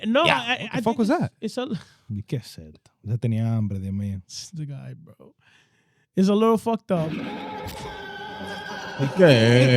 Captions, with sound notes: No, I think it's-- What the fuck was that? (Speaking In Foreign Language) The guy, bro. It's a little fucked up. (Audience Laughing) Okay.